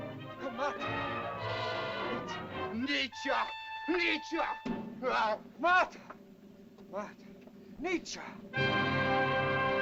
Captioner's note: speaking in caveman language; dramatic music